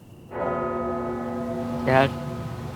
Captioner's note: church bell tolls